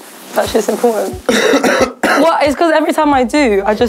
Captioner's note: coughs